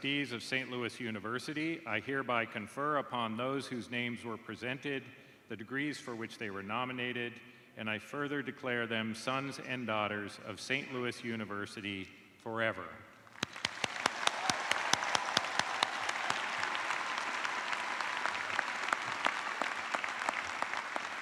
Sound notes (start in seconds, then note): 10.2 cheers and applause